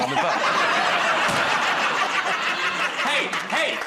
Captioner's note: laughter